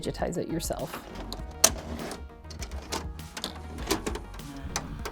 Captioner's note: tape clicking